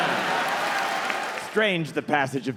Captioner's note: audience laughing